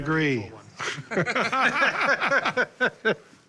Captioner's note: laughter